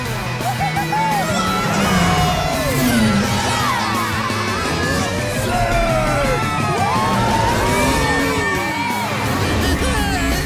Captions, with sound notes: -Whoo-hoo-hoo-hoo! -Whee! Zeg! [cheering]